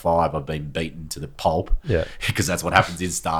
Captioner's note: laughing